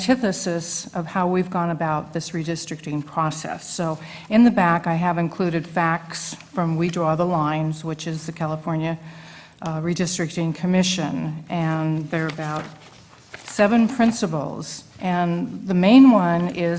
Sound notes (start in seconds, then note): none